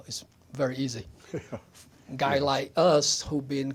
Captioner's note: chuckles